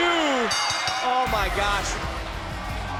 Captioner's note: bell rings